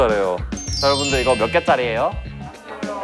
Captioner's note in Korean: 부드러운 톤